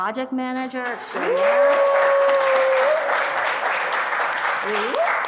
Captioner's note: audience applauding